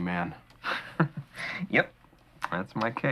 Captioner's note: laughing